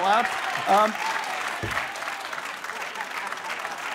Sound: laughter and applause

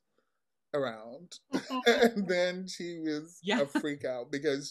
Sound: laughs

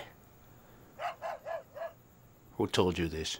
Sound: dog barking

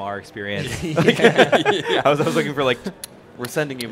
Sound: group laughing

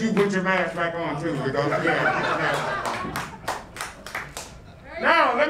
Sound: crowd laughing

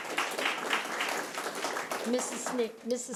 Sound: audience clapping

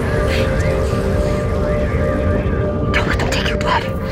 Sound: voices on radio heard in background

